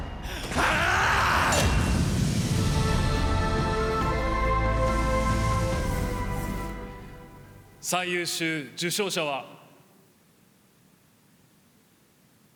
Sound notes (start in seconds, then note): 0.5 Sung Jinwoo is screaming